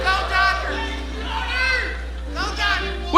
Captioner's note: audience members shouting